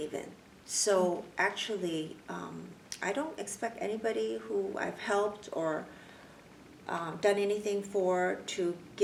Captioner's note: clicks tongue